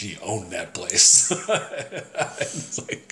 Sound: laughs

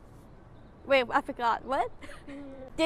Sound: laughs

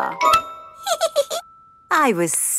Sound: giggles

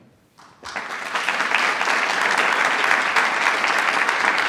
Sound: attendees applauding

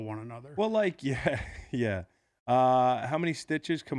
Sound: laughs

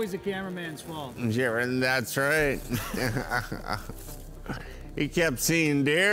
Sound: laughs

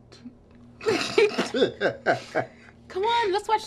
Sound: laughing

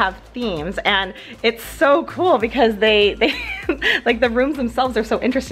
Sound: chuckles

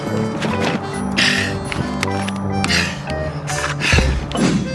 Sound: panting

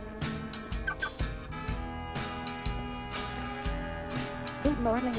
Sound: car alarm beeps

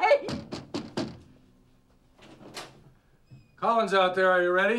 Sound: knocking

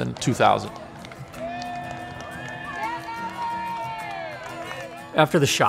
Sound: people cheering

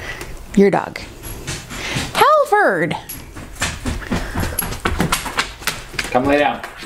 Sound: sound of dog nails on hardwood floor

